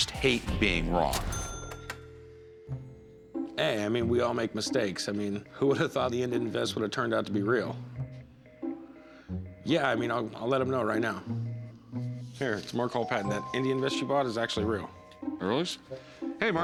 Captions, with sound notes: I just hate being wrong. [dial tone humming] Hey. I mean, we all make mistakes. I mean, who would have thought the Indian vest would've turned out to be real? [phone beeping] Yeah. I mean, I'll let him know right now. Here, it's Mark Hall-Patton. That Indian vest you bought is actually real. Really? Hey, Mark.